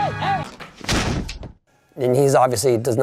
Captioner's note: crashing